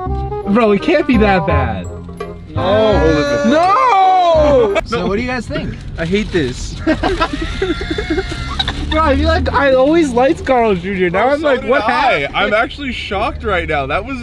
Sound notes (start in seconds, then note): 6.8 laugh